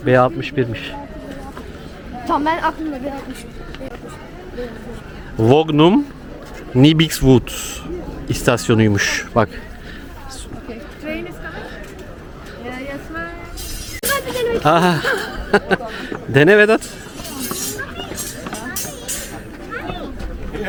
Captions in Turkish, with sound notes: B61'miş. Tamam ben aklımda B6 Vognum Nibixwood istasyonuymuş. Bak [kahkaha] dene Vedat.